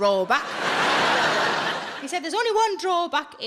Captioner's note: audience laughs